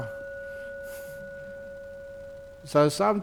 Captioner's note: Ajahn rings the bell